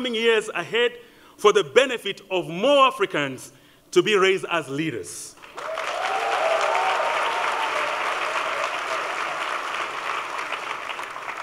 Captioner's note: applause